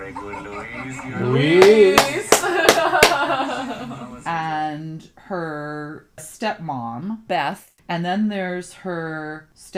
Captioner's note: clapping, laughing